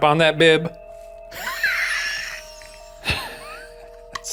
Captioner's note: both laughs